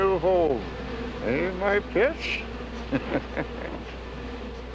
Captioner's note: chuckling